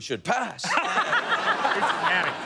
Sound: laughter

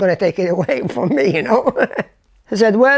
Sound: laughs

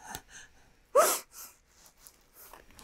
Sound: sobs

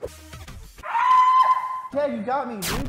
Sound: velociraptor scream

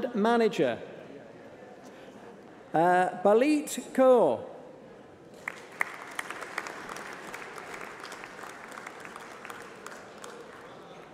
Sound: applause

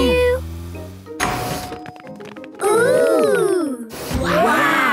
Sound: door dings open

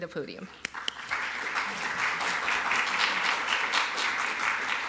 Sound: applause

